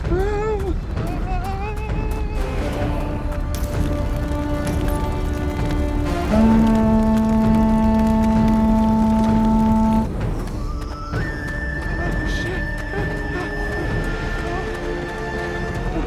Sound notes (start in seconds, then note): 0.1 Homer yells, trembling; 3.6 fire crackling; 3.6 menacing, dark music; 6.2 horn blares; 12.9 Homer yells